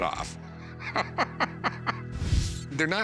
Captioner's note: laughs